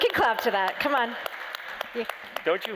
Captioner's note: applause